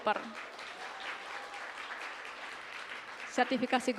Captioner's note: applause